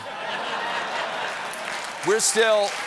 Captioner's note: laughter; applause